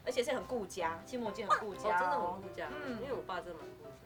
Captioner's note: bark